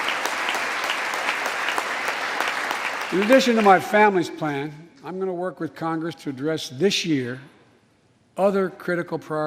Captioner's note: applause